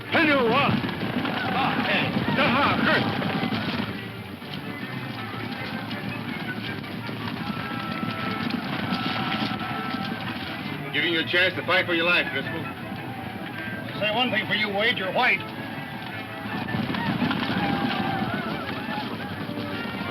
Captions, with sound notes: (speaking foreign language) (upbeat dramatic music) I'm giving you a chance to fight for your life, Driscoll. - I'll say one thing for you, Wade, you're white. (whooping)